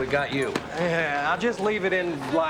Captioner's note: laughs